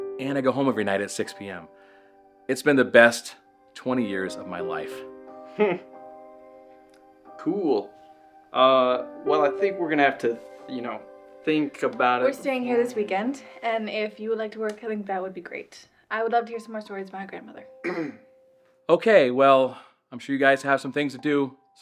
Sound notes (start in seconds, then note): 5.5 Ben chuckles; 17.8 Ben clears throat